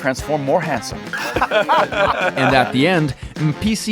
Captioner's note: laughing